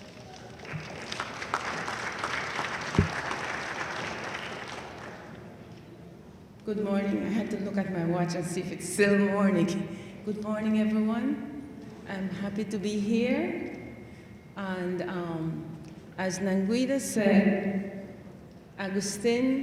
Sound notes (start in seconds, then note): 0.0 audience applauds lightly